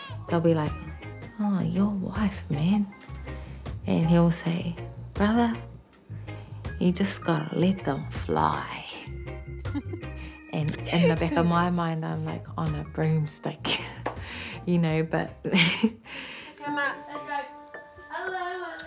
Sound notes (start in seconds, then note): 15.9 chuckles